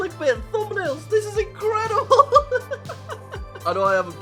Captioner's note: laughs